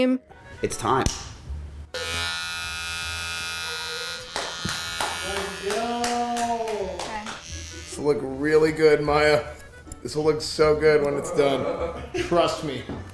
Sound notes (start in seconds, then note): 1.9 electric razor turns on